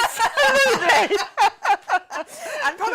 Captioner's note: laughing